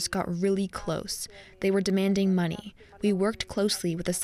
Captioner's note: speaking Indigenous LANGUAGE